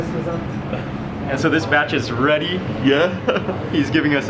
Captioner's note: chuckles